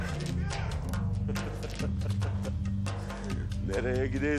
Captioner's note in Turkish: Gülüyor